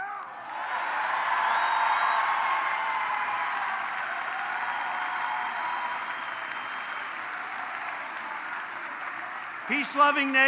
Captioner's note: applause